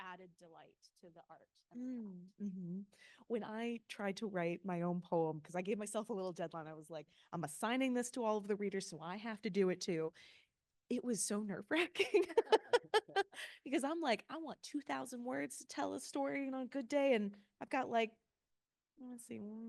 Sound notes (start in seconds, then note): 12.2 laughing